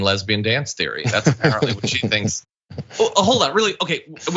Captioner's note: laugh